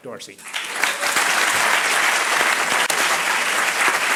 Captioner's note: crowd applauding